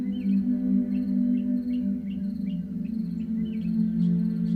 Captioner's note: birds chirping